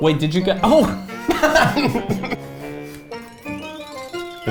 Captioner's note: laughing